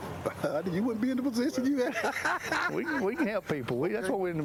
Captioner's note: laughs